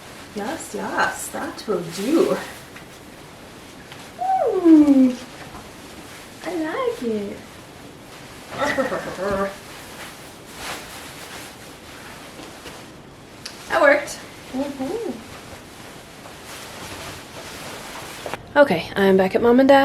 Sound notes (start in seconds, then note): 8.6 weird little goblin laugh; 10.4 more silk swishing; 16.2 swish, swish, swish